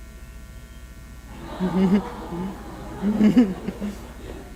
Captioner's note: audience laughs